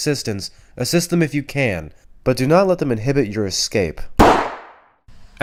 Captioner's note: gunshot